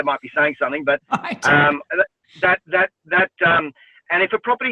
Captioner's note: woman laughs